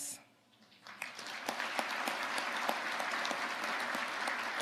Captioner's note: audience applauding